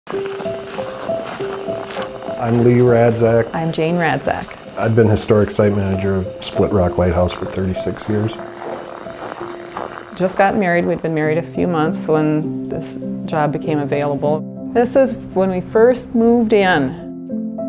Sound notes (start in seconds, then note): 0.0 piano music; 8.8 footsteps in snow